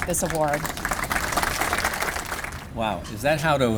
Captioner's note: applause